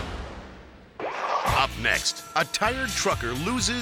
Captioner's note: logo whooshes